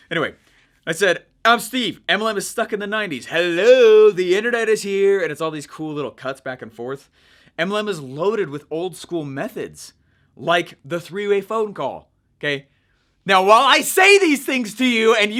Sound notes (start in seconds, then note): none